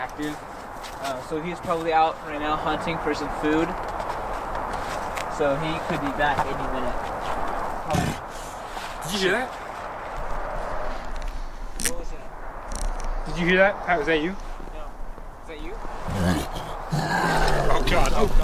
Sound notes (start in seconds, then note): 7.8 growl; 15.9 louder growls